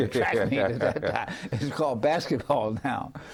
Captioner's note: laughing